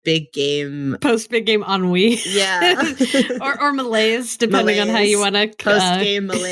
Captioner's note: laughs